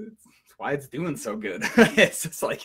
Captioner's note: laughs